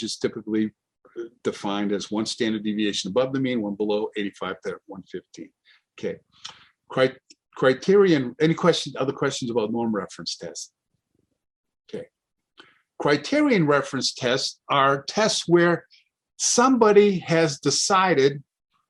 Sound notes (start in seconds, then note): none